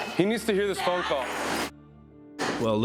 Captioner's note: muted